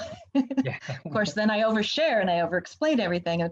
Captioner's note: laughs